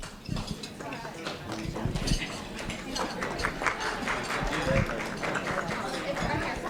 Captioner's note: applause